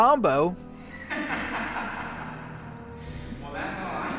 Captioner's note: laughter echoes